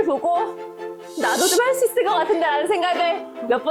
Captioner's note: Confession sound effect